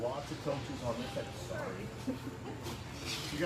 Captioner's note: laughs